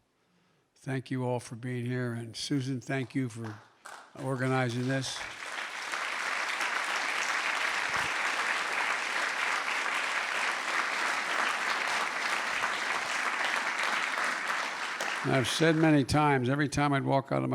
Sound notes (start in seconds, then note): 6.7 applause